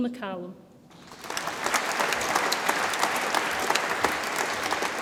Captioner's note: audience applauds